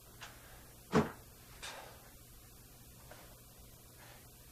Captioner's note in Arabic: ينتقد الباب